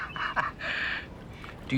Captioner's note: Nash laughs